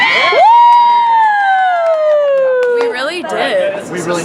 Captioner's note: cheers